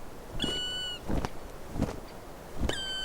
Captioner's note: crane calling